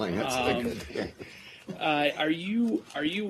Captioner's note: laughter